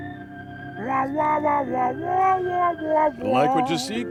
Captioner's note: Tom hums sultry music